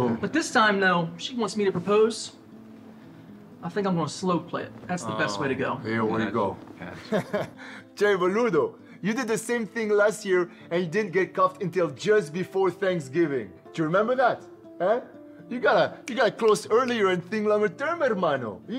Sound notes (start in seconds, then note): 6.2 foreign Language; 6.8 laughing